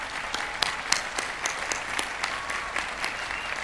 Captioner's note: applause